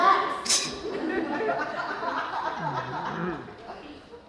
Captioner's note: laughter